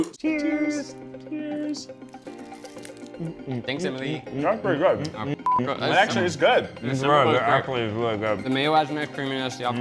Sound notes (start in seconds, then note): 5.4 beep